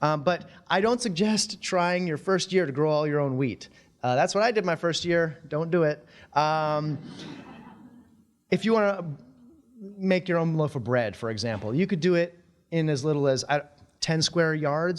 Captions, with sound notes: But I don't suggest trying your first year to grow all your own wheat. That's what I did my first year. Don't do it. [audience laughing] If you wanna make your own loaf of bread, for example, you could do it in as little as, ten square yards